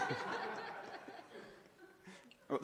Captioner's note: laughter